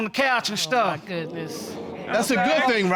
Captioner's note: audience exclaiming